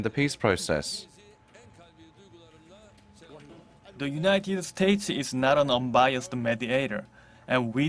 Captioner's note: Arabic